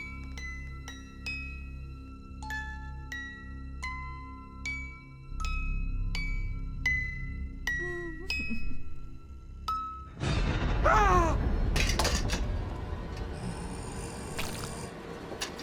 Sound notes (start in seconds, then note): 7.8 crying; 10.8 yells; 12.0 suspenseful music; 13.2 doll growling